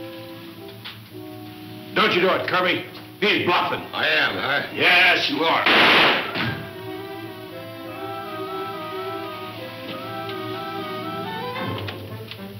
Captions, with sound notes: - Don't you do it Kirby! He's bluffing. - I am, huh? - Yes you are. (gunshot) (thud) (dramatic instrumental music)